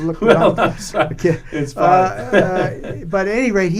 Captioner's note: laughs